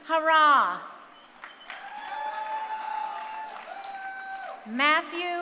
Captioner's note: crowd cheering